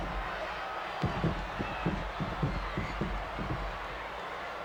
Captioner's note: boots stomping